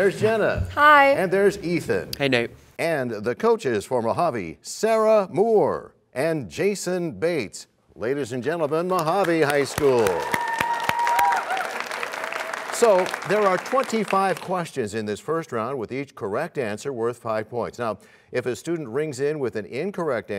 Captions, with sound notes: -There's Jenna. -Hi. -And there's Ethan. -Hey, Nate. -And the coaches for Mojave, Sarah Moore and Jason Bates. Ladies and gentlemen, Mojave High School! [cheers and applause] -There are 25 questions in this first round with each correct answer worth 5 points. Now, if a student rings in with an incorrect